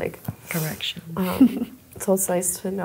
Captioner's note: laughs